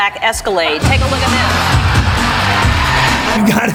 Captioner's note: crowd cheers